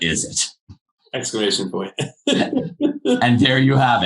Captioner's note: laughing